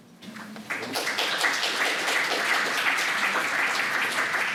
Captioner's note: audience applauding